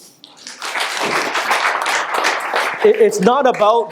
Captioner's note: applause